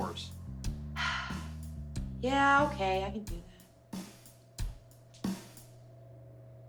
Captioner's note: sighs